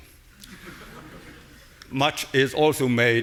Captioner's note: audience laughing